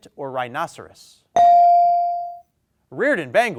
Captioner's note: bell dings